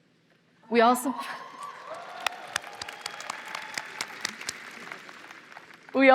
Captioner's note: applause